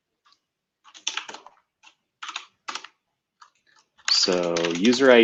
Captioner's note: typing